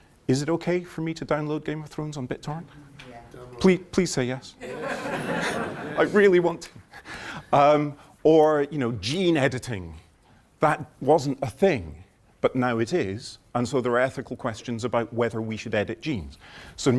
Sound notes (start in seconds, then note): 4.6 laughter